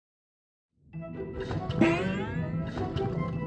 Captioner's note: pumpkin gurgling